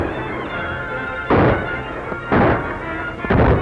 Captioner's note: gunshot